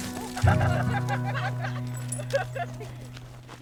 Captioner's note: all laughing